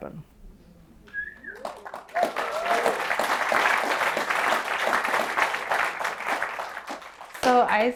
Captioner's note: applause